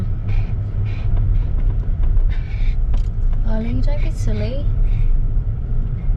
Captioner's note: huffs and puffs